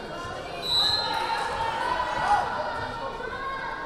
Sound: whistle blaring

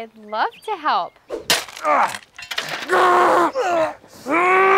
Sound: grunting

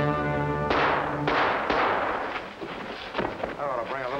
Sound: loud gunshots

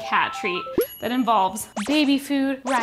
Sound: microwave dings

